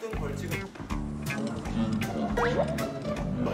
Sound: pow

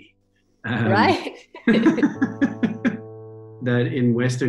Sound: chuckles

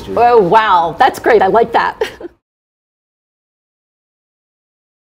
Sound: chuckling

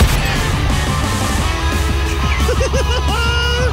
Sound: laughing

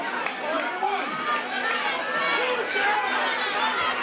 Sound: crowd shouting; bell rings; crowd shouting

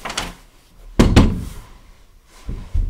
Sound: door closes

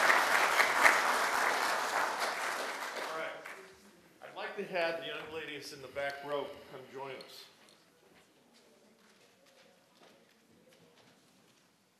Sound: applause

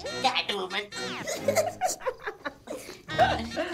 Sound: giggling

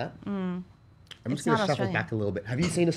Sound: hums

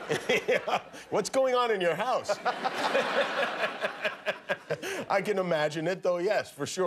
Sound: laughter

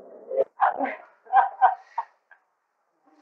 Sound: laughter

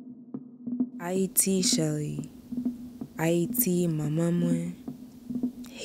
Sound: speaking foreign language

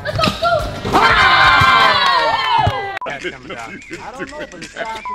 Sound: all cheering

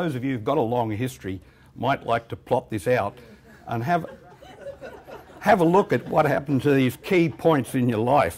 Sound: laughter

